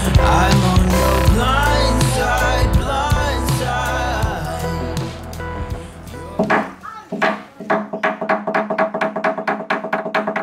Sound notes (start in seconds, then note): 6.4 wood tapping